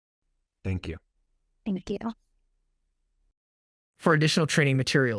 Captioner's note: AI voice